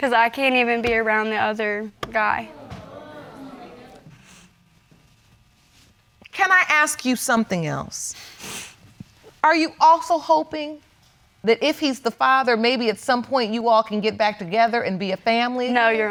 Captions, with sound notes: 'Cause I can't even be around the other guy. (AUDIENCE EXCLAIMING) Can I ask you something else? Are you also hoping that if he's the father, maybe at some point, you all can get back together and be a family?